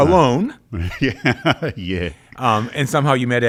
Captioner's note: chuckles